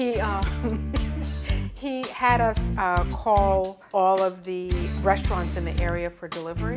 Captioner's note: laughs